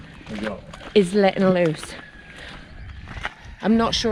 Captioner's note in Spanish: ruido de gallos